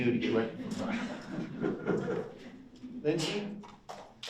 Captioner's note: drowned out by audience chuckling